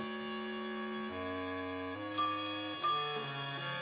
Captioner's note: clock chiming